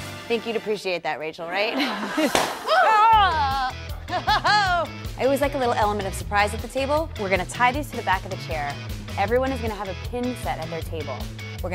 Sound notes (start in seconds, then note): 2.3 loud pop; 2.6 exclaims